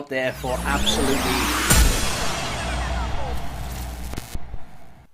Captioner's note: tape rewinding